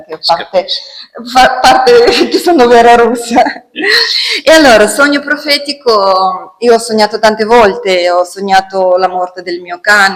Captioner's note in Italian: risate